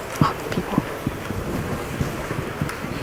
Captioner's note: applause